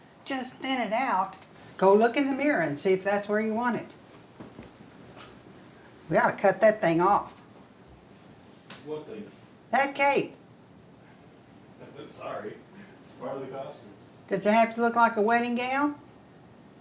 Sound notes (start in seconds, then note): 3.9 foot falls padding; 11.9 chuckles